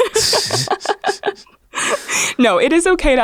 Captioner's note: laughs